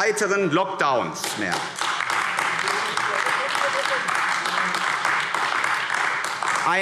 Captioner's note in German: Beifall AfD